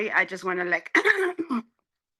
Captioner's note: clearing throat